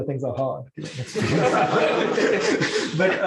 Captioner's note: laughter